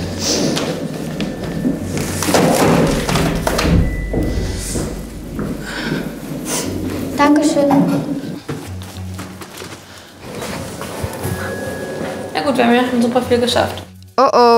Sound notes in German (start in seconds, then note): 6.1 schnieft; 10.4 Gespannte Musik